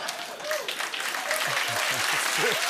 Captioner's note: cheers and applause